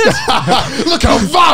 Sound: everyone laughs

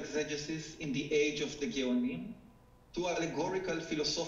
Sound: speaking foreign language

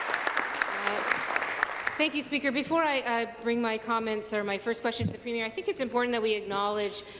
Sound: applause

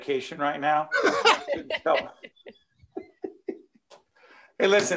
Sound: laughing

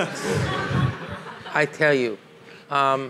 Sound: audience laughing

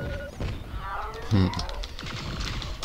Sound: snigger

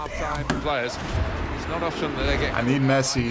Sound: spectators cheering

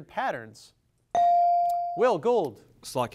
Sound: device dings

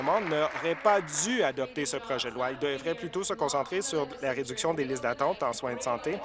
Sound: applause

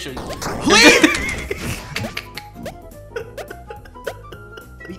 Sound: laughing

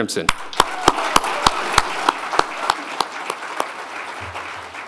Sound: audience applauding

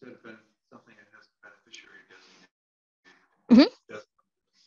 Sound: faintly speaking

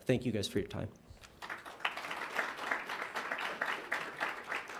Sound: applause

